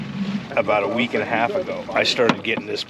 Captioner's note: chuckling